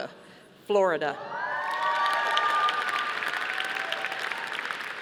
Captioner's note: audience applauding